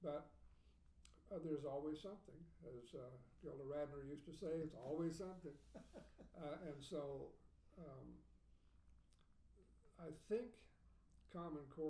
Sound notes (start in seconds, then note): 5.6 laughing